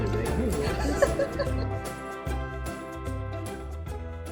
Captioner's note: laughing